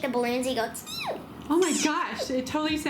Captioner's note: squeaking